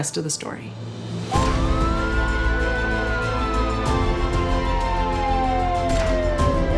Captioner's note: dramatic music; sirens blare